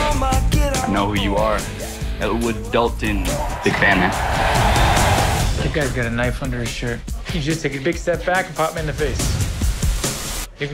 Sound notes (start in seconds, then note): 3.2 crowd cheering